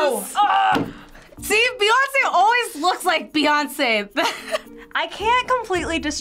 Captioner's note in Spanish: risas